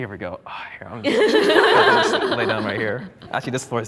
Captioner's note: group laughs